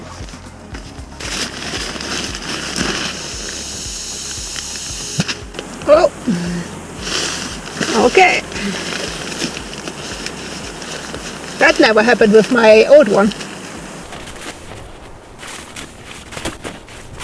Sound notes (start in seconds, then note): 1.4 sound of bag rustling and air flowing out of it; 5.1 popping sound; 16.1 rustling sound